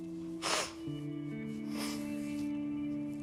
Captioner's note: sniffles